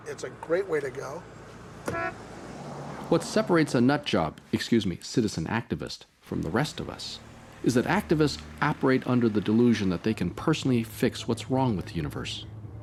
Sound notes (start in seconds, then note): 1.8 horn honking